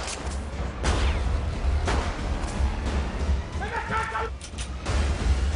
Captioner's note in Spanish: Disparos